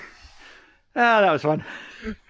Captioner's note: laughter ensues